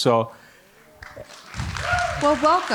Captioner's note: audience applauding